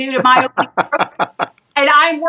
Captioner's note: laugh